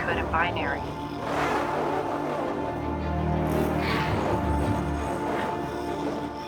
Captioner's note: robot speaking in foreign language